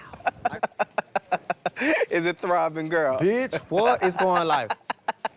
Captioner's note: laughs